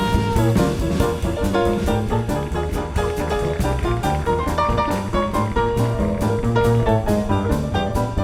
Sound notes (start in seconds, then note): 2.6 audience applauding